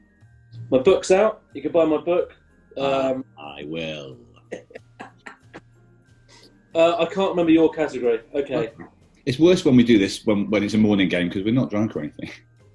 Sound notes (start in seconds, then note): 2.7 slow drawl; 4.4 laughing